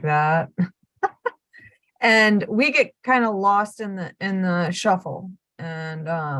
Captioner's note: laugh